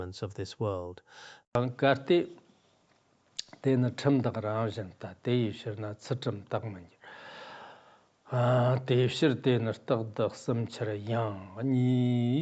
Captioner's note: giving oral transmission in Tibetan